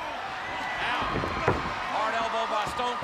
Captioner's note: audience cheers